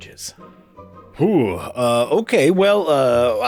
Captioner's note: deep sigh